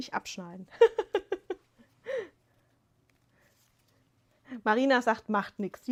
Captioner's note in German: gelächter